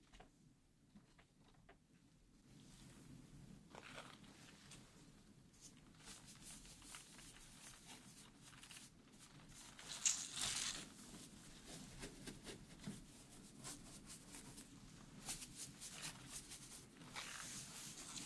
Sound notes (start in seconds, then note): 9.5 brush swishing